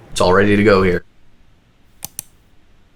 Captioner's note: mouse click of video editor